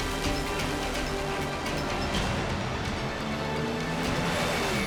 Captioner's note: cars racing